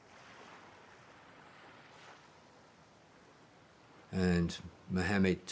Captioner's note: waves crashing